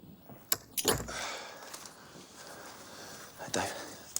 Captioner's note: chain rattling; John sighs